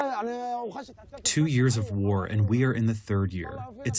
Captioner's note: through translator